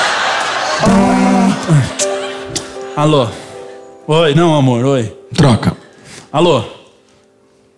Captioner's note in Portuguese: vibração